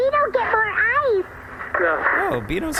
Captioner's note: over comms with Pleck